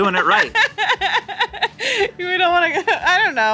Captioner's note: continues laughing